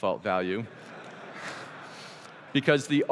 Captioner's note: laughter